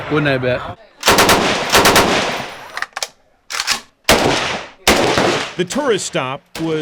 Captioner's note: gunshots